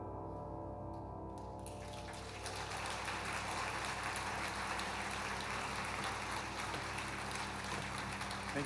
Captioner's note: applause